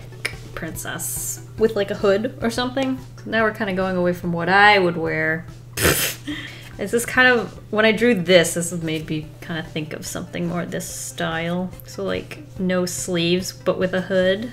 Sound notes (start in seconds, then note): 5.5 laughs